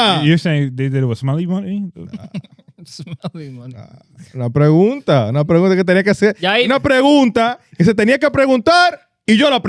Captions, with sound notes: You're saying they did it with smelly money? (Laughing) Smelly money. (Speaking In Foreign Language)